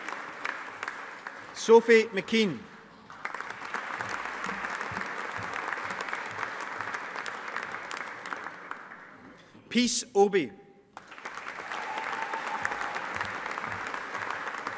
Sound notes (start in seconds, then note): 3.0 audience applauding; 10.9 audience applauding